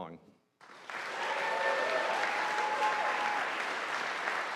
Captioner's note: audience applauding